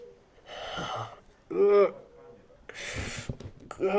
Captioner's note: groans loudly